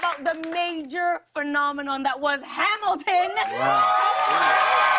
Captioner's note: cheers and applause